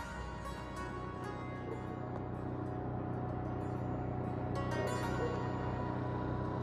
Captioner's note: dogs barking